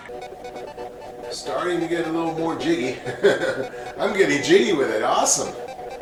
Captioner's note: laugh